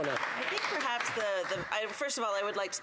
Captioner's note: some Applause